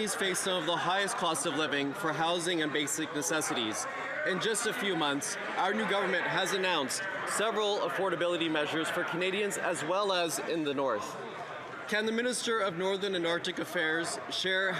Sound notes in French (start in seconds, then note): 2.6 voix de l'interprète